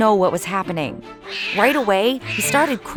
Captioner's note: crying